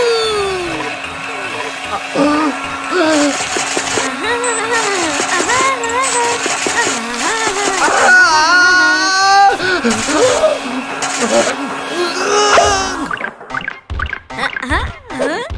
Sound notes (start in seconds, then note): 10.8 struggling